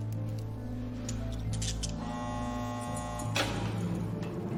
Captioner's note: door buzzer